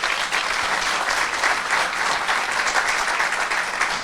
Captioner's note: audience clapping